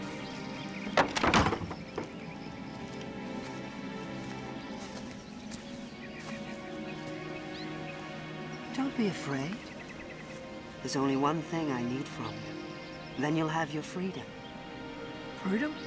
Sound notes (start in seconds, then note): 0.9 wood clattering